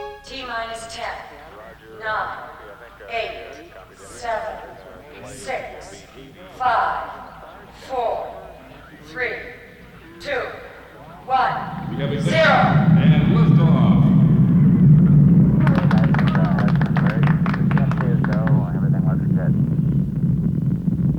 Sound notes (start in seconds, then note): 14.1 spacecraft roars; 15.5 group clapping drowns out speaker